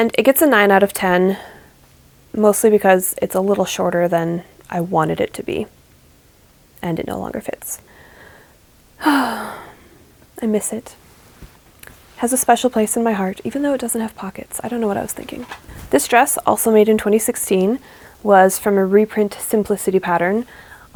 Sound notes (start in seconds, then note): 9.0 sigh